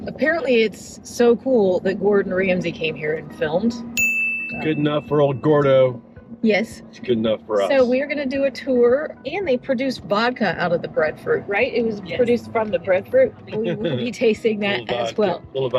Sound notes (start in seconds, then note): 4.0 glass clinking